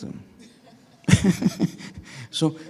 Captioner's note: laughing